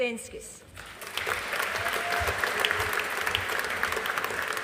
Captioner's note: audience applauding